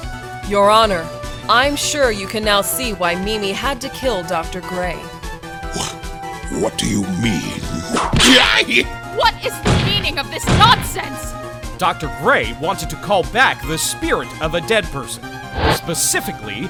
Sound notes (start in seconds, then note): 8.0 whip crack!